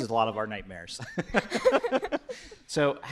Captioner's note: laughter